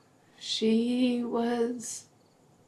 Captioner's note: none